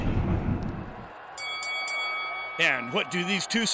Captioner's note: explosion; bell rings